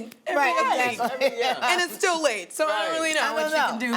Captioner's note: laughs